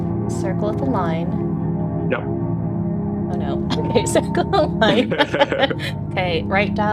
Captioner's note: both laughing